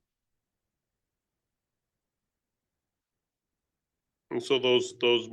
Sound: audio cuts out

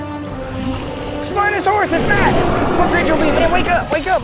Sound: spinosaurus growls

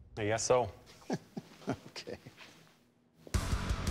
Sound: laughing

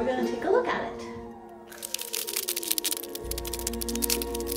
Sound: creepy Spider leg rustling

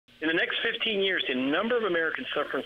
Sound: voiceover

